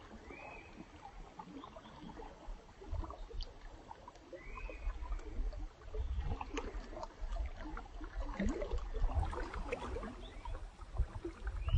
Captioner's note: sound of water babbling